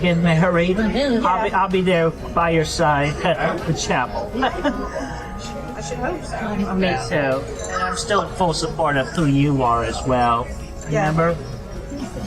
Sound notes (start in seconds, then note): 4.2 laughter